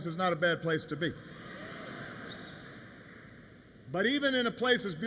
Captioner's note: laughter